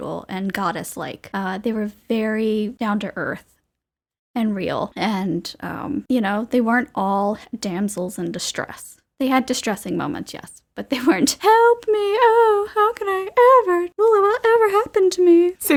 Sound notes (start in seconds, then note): 11.1 desperate, dramatic voice